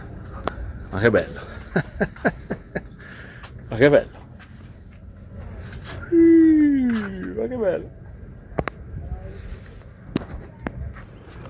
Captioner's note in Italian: risate